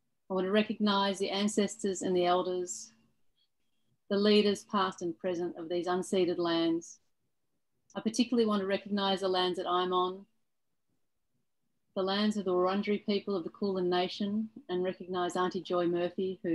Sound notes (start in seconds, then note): none